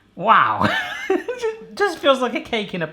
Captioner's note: laughs